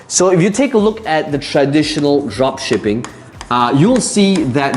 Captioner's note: tapping marker